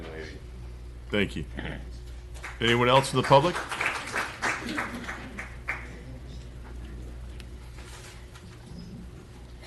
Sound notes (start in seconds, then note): 6.2 applause